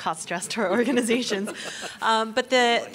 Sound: laughing

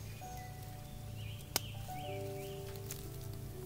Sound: closes satchel

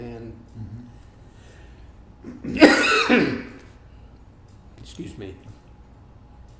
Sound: coughs

